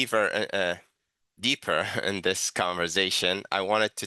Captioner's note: chuckles